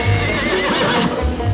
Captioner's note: horse neighing